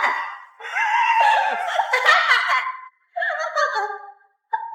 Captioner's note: laughing hysterically